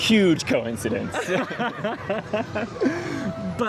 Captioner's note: laughter